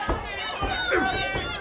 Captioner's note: crowd chatter